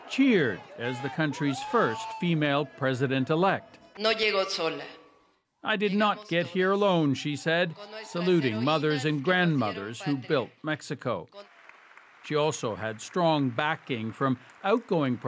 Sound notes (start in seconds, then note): 0.0 cheers and Applause; 7.9 speaking spanish